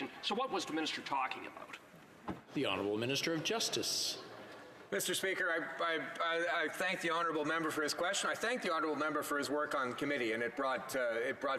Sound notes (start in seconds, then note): none